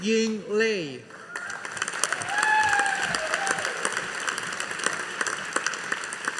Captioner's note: audience applauding